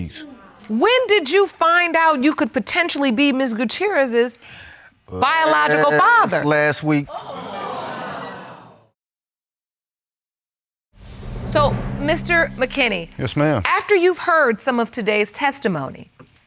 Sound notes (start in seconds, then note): 7.0 audience exclaiming